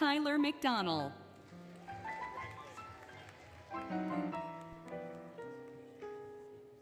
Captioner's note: applause, Cheering, Music